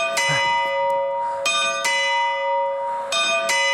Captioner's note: bell rings sharply